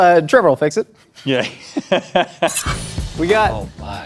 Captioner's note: laughs